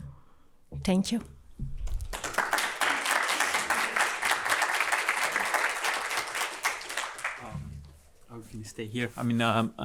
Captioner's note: applause